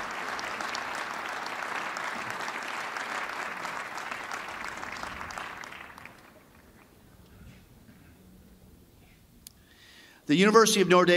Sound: applause

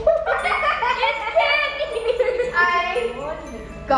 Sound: laughing

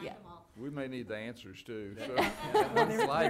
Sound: laughing

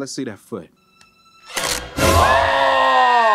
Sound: crunching sound; Panda Bear screaming; screaming

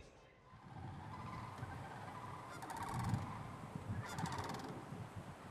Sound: wind and bird sounds

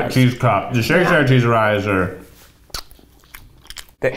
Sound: kisses

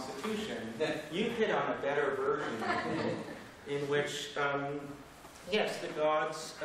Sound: laughter

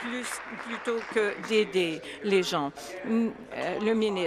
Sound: applause

